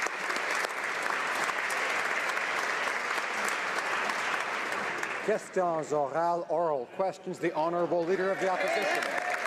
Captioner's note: applause